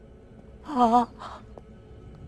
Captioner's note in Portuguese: gemido estranho